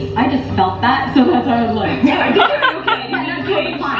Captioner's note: laughing